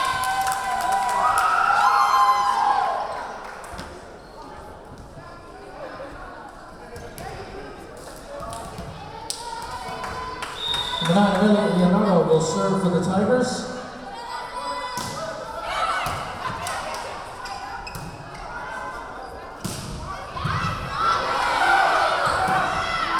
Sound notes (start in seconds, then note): 0.0 cheering; 0.0 clapping; 5.8 yelling; 10.5 whistle blowing; 16.0 yelling